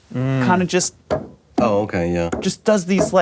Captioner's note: tapping with fingers